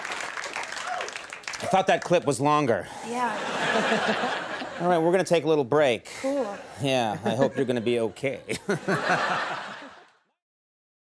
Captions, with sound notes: I thought that clip was longer. Yeah. (audience laughing) Alright, we're gonna take a little break. Cool. Yeah. I hope you're gonna be okay. (Conan chuckling)